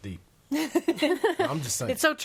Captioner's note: laughing